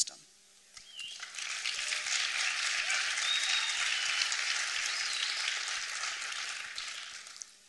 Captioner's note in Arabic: تصفيق